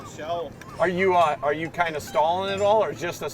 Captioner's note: voiceover